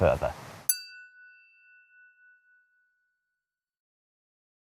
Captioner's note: chiming tone